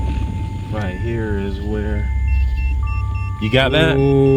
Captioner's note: detector beeping